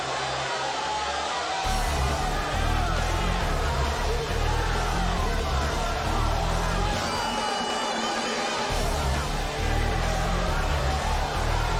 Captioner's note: cheers and applause